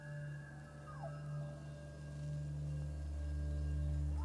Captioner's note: elk distantly bugling